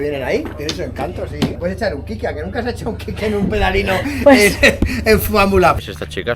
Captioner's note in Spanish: risas